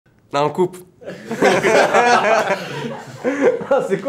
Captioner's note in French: Rires